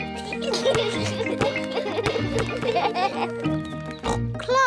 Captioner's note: youngsters giggle; oinks